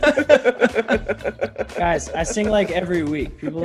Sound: laugh

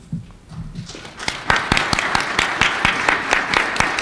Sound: applause

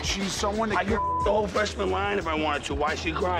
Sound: beep

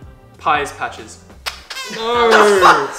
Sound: squeaks

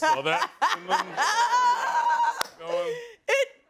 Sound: laughing

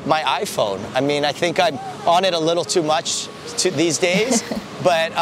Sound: laughs

